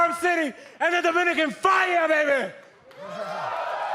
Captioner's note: crowd cheering